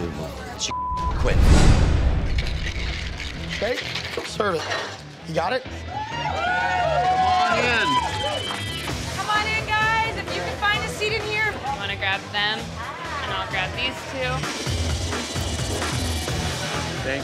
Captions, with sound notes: - Unbelievable, she (beep) quit. - You got it? (cheering) - Come on in guys, if you can find a seat in here. - I'm gonna grab them. I'm gonna grab these two.